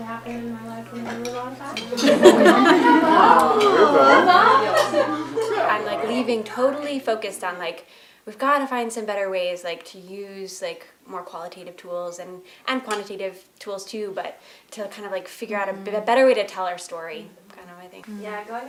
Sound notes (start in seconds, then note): 1.8 laughter